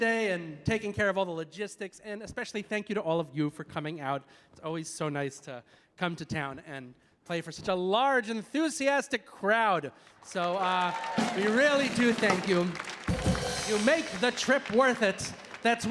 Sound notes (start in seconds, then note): 10.1 audience applauding; 14.7 drum chord